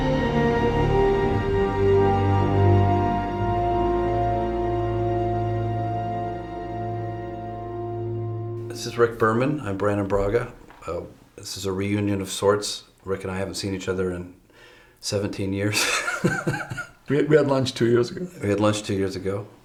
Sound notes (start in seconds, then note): 15.7 chuckles